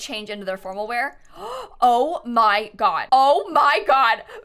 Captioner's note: gasps